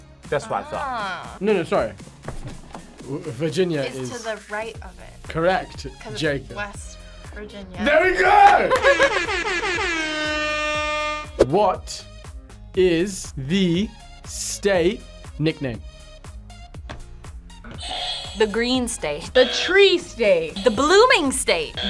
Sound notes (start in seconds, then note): 8.9 air horn blares; 19.3 buzzer rings